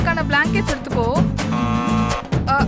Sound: door bell rings

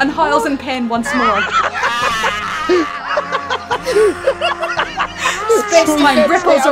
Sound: pained Malefor noises; laughter

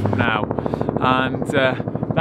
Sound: helicopter blades whirring

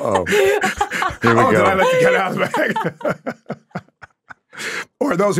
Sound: laughs

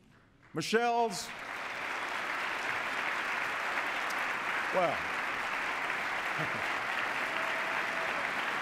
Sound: applause; chuckles

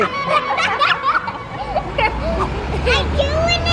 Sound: laughing

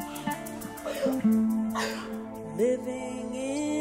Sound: Efosa cries

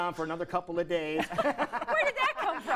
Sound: laughter

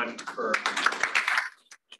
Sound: applause

